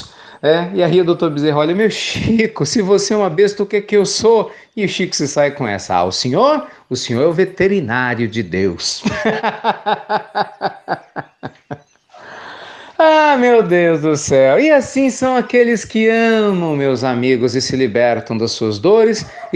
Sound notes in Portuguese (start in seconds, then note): 11.8 risadas